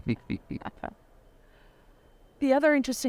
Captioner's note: laughs; chuckles